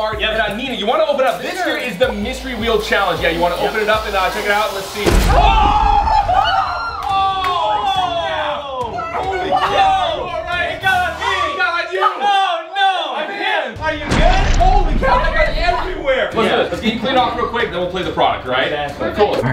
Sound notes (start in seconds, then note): 5.0 box exploding; 5.1 everyone screams